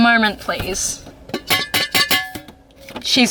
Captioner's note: ding ding sing